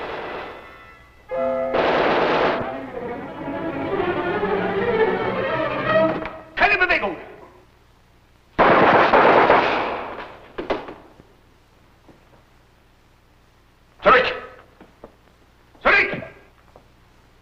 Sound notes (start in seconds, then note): 1.3 vintage music; 1.7 explosion; 6.0 foreign language; 8.6 gun shots; 13.4 foreign language